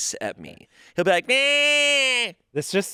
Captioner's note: imitates cat meowing